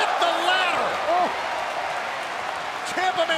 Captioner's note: crowd cheering